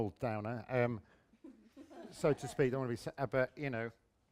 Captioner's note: laughter